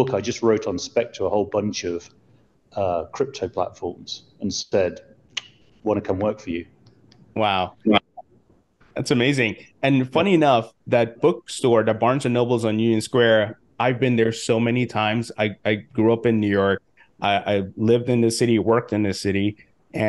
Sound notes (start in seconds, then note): 6.8 clicks